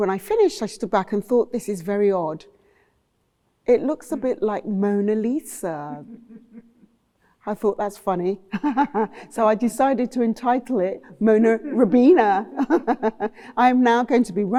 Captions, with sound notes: I stood back and thought, "This is very odd. It looks a bit like Mona Lisa." [Person chuckles] I thought, "That's funny," [Person laughs] so, I decided to entitle it Mona Rubbena. [Laughter] I'm now going to be Rhona--